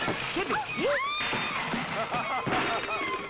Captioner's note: Ashraf laughs